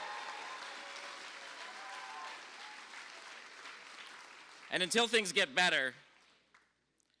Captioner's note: applause